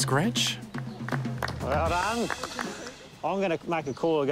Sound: clapping

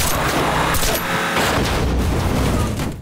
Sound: thudding

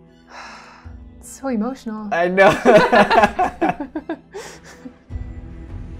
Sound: sigh; laughter

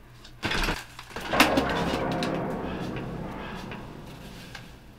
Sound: eerie banging

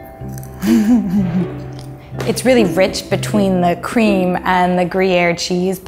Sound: laughs

